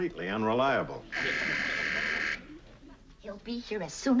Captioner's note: doorbell buzzes